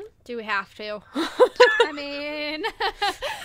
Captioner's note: hosts laugh